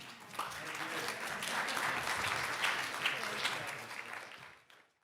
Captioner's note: audience applauding